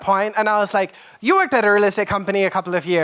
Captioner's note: none